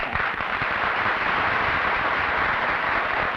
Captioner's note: applause